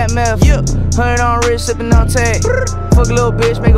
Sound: brr

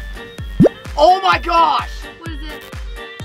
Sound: special effects blooping

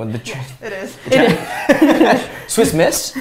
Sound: laughter

